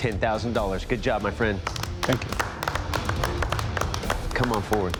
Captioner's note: applause